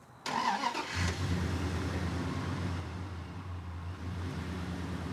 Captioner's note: truck engine rumbling